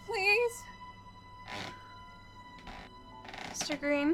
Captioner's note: creaking footsteps